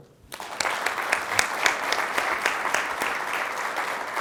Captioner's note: crowd applauds